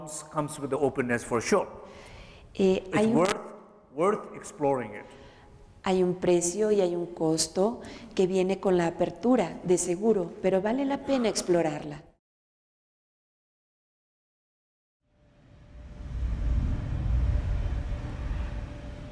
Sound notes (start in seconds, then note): 10.8 Spanish